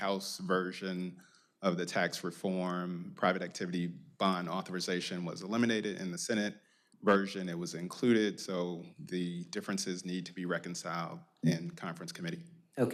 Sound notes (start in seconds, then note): none